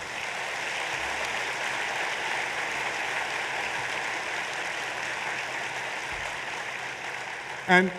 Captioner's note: applause